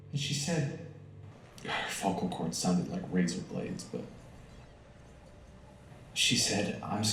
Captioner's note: sigh